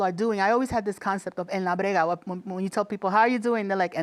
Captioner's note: speaking Spanish